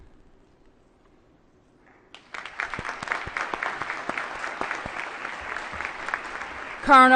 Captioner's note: applause